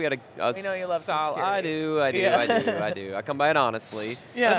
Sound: laughs

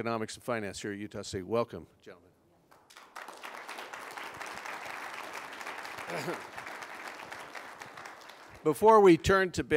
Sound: applause

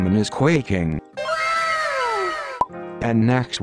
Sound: かわいい wow sfx

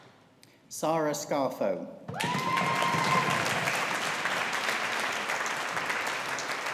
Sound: audience applauding

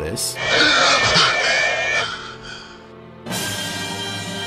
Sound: creature growling; dramatic music

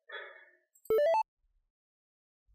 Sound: notification sound

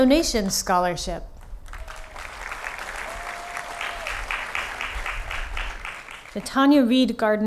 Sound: applause

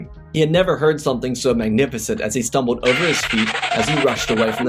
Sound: Scooby Doo running

